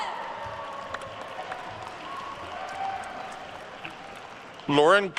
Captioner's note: attendees cheering and applauding